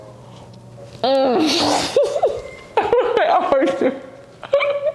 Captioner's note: laughs; laughs